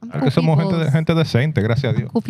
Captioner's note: speaking Spanish